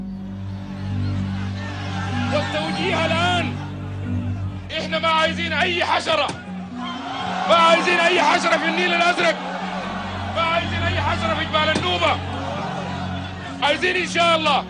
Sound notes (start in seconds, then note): 0.1 chattering; 2.0 man speaking Arabic; 6.5 soldiers yelling in response